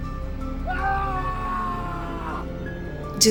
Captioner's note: omar screaming